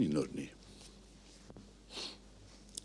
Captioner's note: sniff